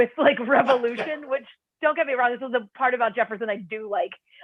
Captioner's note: laughter